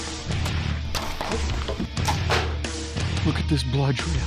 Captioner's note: guns and bows firing